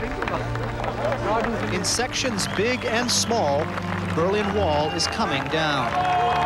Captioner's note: clapping